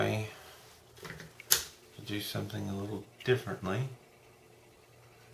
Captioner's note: click